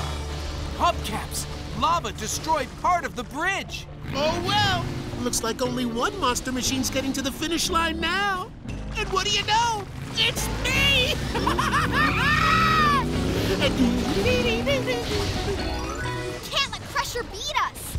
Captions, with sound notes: Hubcaps! Lava destroyed part of the bridge! Oh, well! Looks like only one Monster Machine's getting to the finish line now! And what do you know? It's me! [laughing] [humming] We can't let Crusher beat us!